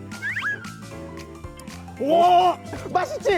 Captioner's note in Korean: 냠냠